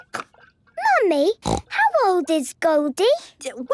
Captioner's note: snorting